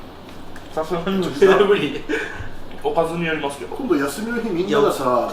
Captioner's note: laughs